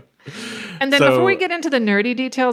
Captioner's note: laughs